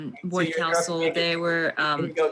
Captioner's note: overlapping chattering